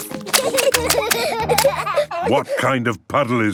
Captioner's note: laughter